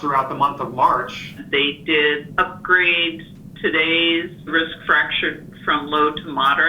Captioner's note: on phone